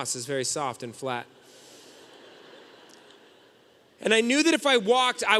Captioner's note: audience laughing